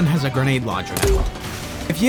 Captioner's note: doonk